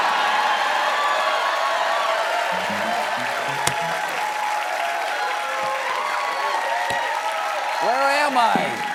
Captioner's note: cheers and applause